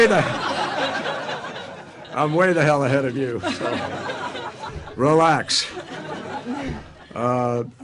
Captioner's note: laughter